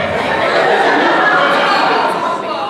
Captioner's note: audience laughter